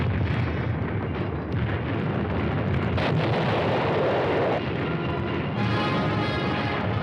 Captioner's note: bombs exploding